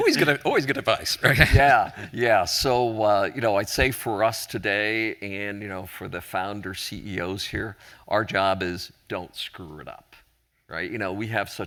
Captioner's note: chuckling